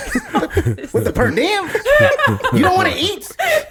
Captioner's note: laughs